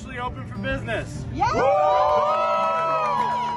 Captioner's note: crowd cheers